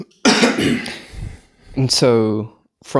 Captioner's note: coughs